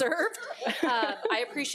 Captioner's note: board members laughing